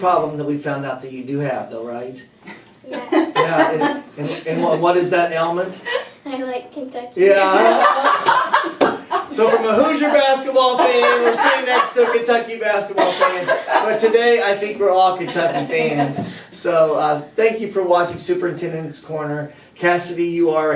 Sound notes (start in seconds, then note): 2.8 laughter; 9.2 laughter